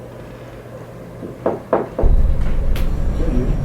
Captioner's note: knocking at the door